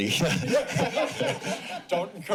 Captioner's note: laughter